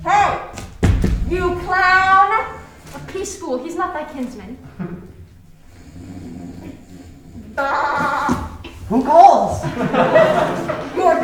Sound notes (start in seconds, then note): 7.5 Touchstone baaing